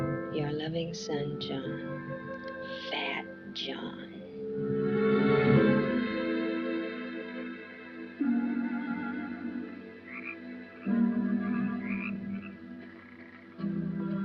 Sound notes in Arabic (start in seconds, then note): 10.3 نعيق الضفادع